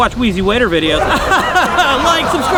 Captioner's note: laughs